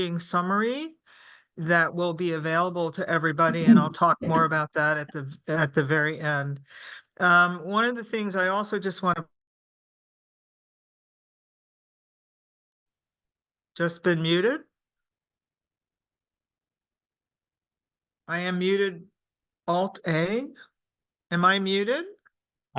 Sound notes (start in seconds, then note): 11.9 pause